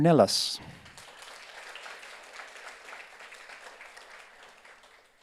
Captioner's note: audience applauds